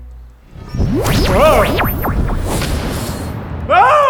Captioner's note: trance-dimensional teleportation sound